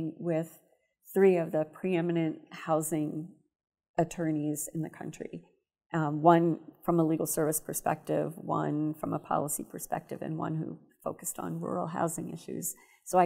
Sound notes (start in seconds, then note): none